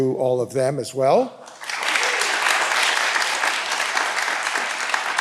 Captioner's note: all applauding